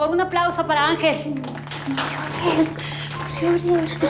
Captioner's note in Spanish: Aplausos